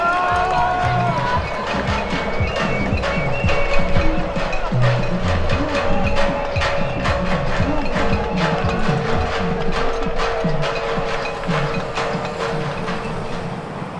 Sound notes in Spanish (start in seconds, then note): 1.7 Cacerolazos y silbatos